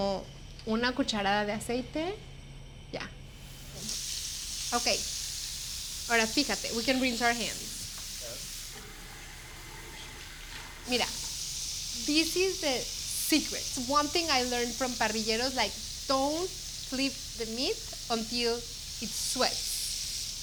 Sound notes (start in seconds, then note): 3.8 sizzling; 5.8 speaks Spanish